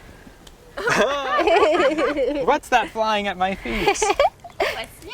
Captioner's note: laughs